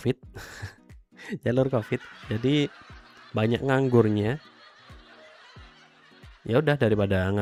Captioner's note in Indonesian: tertawa